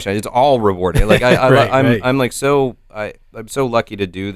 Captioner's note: chuckles